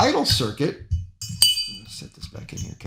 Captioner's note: metal clanking